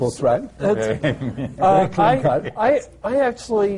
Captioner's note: laughter